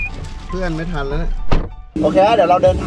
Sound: door closed

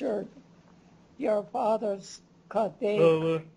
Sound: non-english; non-english speech

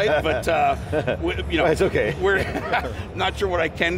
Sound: laughs

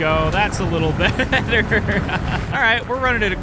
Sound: laughs

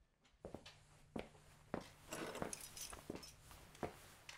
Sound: footsteps tapping

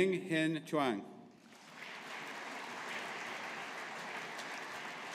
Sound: audience applauding

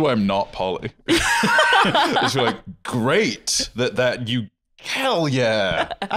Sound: laughing

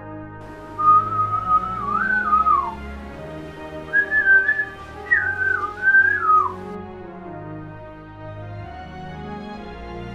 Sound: whistling

